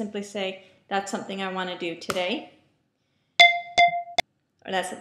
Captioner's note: alarm beeps